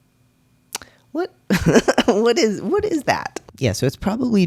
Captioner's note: laughs